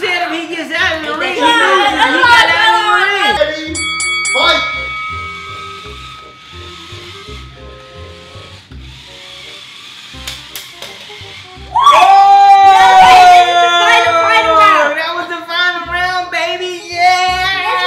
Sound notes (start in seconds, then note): 3.8 dings; 6.6 robots whirring; 11.7 cheering